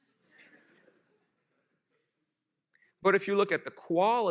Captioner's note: laughter